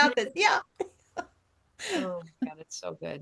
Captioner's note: laughing